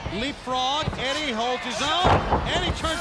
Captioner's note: body thudding